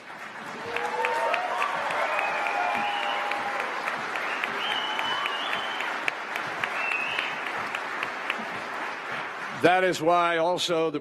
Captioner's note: cheers and applause